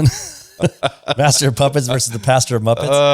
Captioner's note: laughs